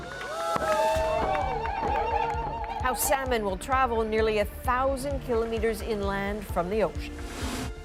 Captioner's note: applause